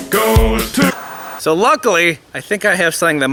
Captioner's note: static crackles